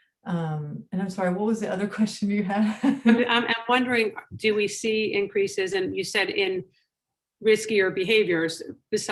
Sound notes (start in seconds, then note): 2.8 chuckles